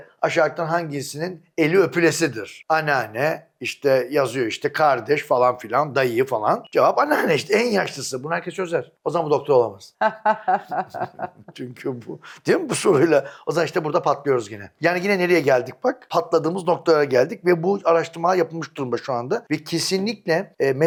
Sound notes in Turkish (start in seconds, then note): 10.0 kahkaha